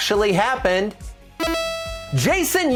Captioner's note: bright beeping